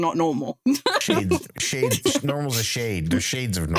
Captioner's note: laughs